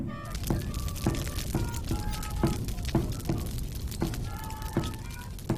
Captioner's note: playing instruments; fire crackling